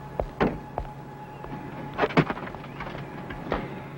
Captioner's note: footsteps thudding